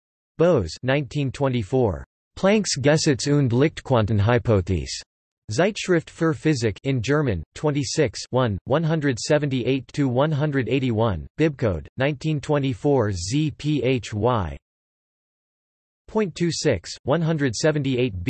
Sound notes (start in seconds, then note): 7.7 in German